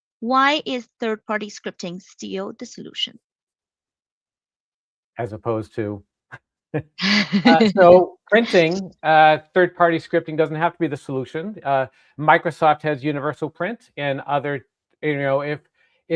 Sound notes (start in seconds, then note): 7.0 laughing